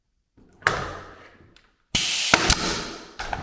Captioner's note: tools clanking; gun nailing